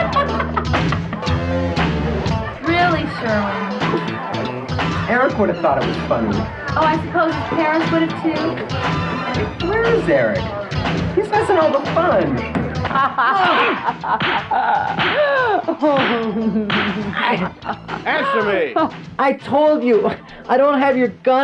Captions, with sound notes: (laughs) - Really Sherwin. - Eric would have thought it was funny. - Oh, I suppose his parents would have too. - Where is Eric? He's missing all the fun. (laughs) (punches smacking) - Answer me! - I told you, I don't have your gun